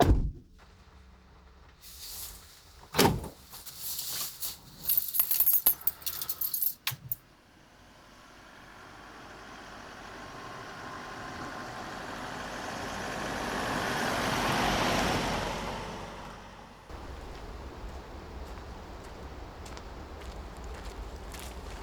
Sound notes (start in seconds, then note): 0.1 door shuts; 4.4 keys jingle; 8.5 car rumbling; 18.8 leaves crunching